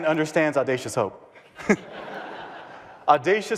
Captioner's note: audience laughing